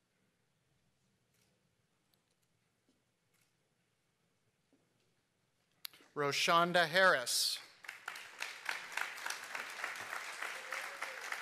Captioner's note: applause